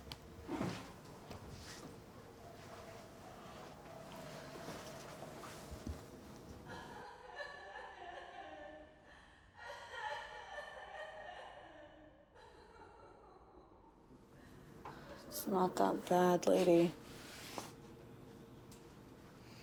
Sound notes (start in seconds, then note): 7.3 faint sobbing